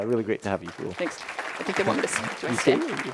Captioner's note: audience applauding